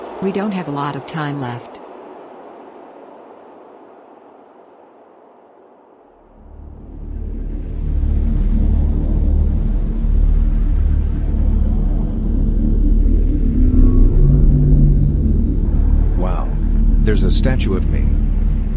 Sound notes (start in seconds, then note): 6.5 tense ambient music; 13.6 aircraft whirs